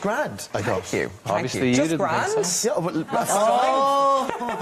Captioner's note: laughing